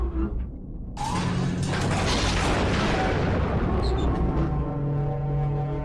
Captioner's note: electricity rumbles